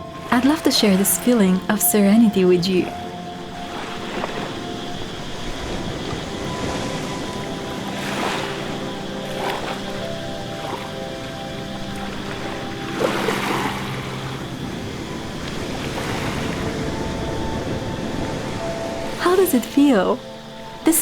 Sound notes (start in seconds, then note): 5.7 wave and nature sounds